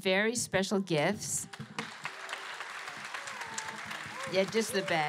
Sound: applause

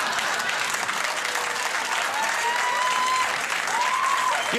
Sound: audience laughing; audience clapping

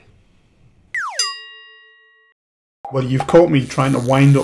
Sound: slide whistle and bell

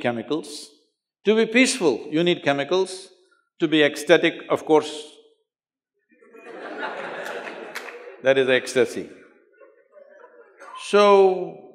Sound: laughter

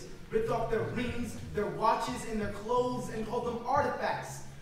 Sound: none

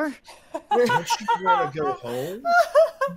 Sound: game Master laughs

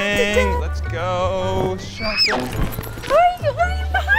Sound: cartoon thunk

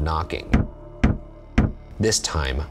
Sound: knuckles rapping

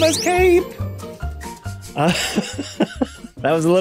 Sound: chuckles

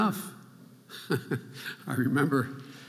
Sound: chuckling

